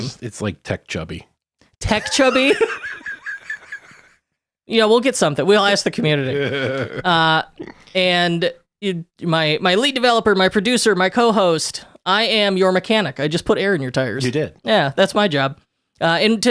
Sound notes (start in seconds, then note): 1.9 laughing; 5.9 laughing